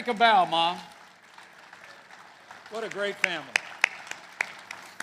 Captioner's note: applause